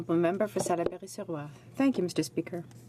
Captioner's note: speaking in french